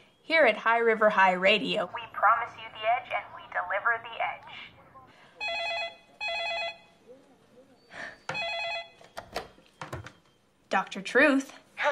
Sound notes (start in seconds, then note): 5.4 phone rings